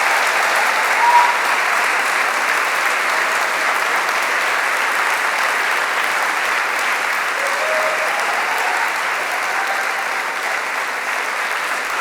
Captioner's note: applause